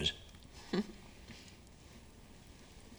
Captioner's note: Jane chuckles